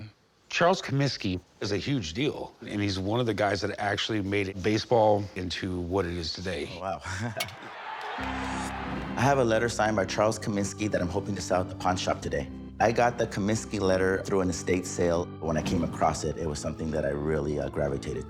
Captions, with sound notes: Charles Comiskey is a huge deal. And he's one of the guys that actually made baseball into what it is today. - Oh, wow. [chuckles] [bat hits ball] [crowd cheers] - I have a letter signed by Charles Comiskey that I'm hoping to sell at the pawn shop today. I got the Comiskey letter through an estate sale. When I came across it, it was something that I really, uh, gravitated toward.